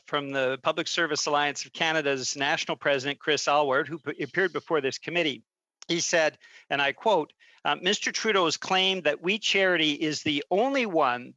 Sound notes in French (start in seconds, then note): 0.9 voix de l'interprète